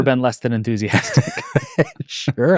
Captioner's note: group laughing